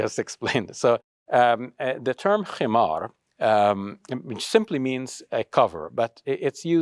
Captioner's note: speaks Arabic